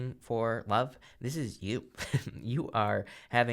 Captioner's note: chuckles